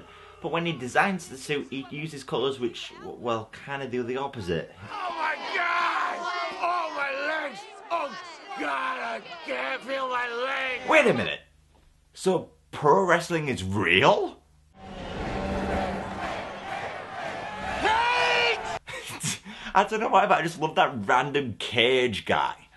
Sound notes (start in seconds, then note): 14.8 people chanting 'cage'; 18.7 he laughs